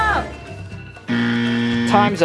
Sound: alarm ringing

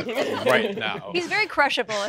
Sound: all laughing

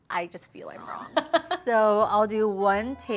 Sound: laughter

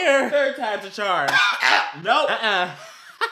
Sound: violent coughing; laughs

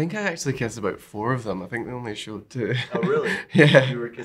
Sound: laughs

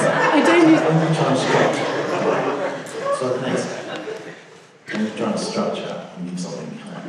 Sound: voiceover

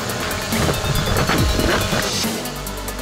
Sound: rotors buzzing; crash

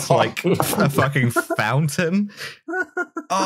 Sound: laughter

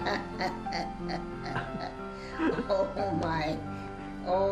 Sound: laughs

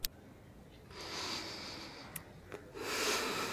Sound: inhales

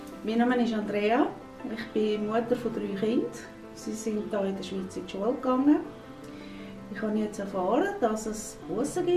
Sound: woman speak Swiss German

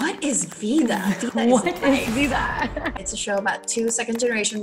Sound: laughs

